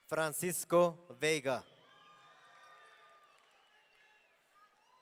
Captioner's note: audience cheering